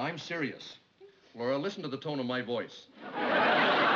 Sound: deep voice

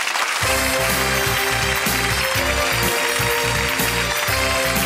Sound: audience applauding

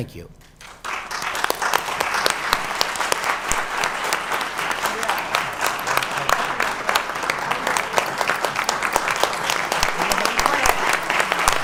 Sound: applause

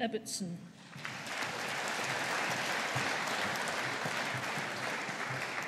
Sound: audience applauding

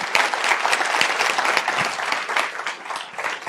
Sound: applause

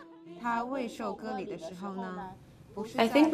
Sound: praying in foreign language

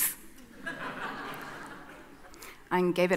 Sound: audience laughing

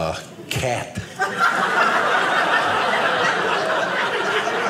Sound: audience laughing

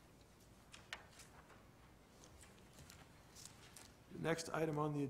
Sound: paper rustling

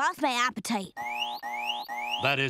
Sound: beeping

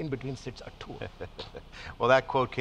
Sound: laughing

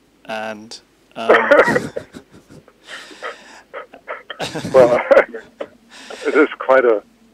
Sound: laughs

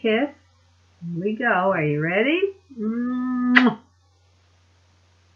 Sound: smacks

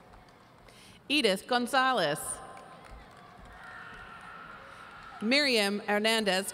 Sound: audience cheering

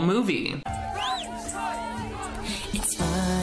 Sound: lively background chattering

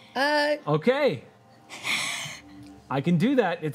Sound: chuckles

